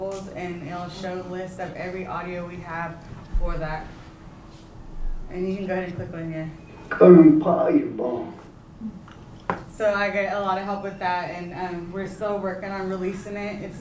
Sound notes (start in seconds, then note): 7.8 non-english speech